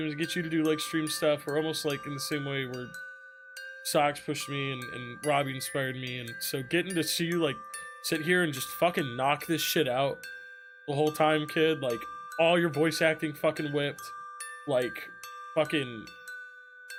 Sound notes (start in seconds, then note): none